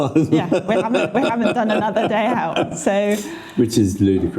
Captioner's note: laughing